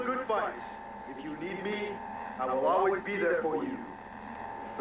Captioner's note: none